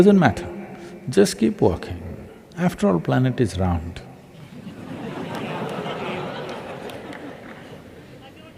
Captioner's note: laughter